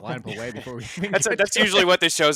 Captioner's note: everyone laughing